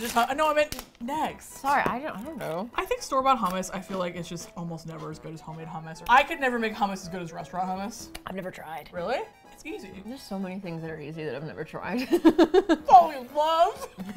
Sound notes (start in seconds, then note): 7.9 mouth full; 11.9 laughs